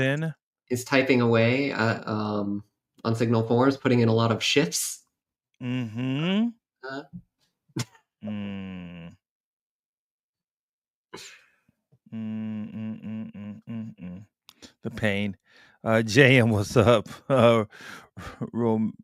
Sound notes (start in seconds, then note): 12.1 humming